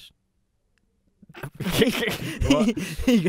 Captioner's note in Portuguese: risos